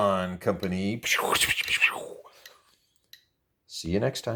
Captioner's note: silly sound effects!